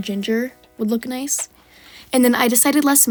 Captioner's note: breath